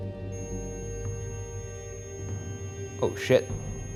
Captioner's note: REM-pod beeps